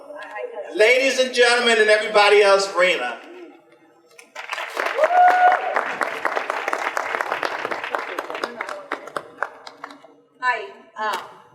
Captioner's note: audience applause